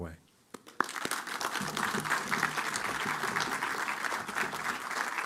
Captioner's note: applause